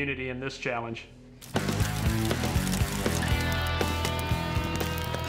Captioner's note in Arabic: فرقعة النار